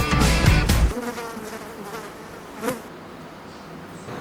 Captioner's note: pesky fly buzzing